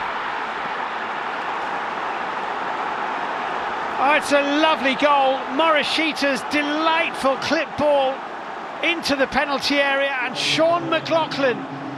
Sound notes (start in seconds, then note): 3.4 cheers and applause; 4.0 crowd noise